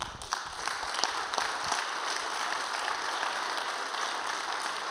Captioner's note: audience applauding